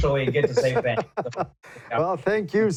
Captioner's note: laughs